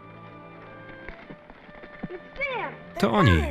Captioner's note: horse hooves clomping